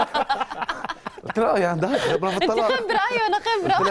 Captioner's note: laughing